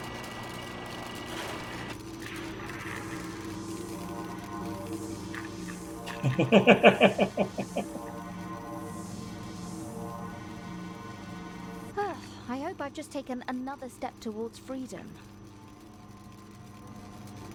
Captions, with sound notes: [laughs] Whew! I hope I've just taken another step towards freedom!